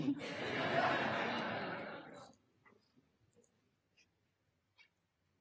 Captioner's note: audience laughter